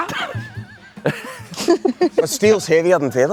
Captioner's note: everyone laughs